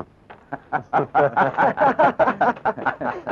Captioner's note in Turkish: Kahkahalar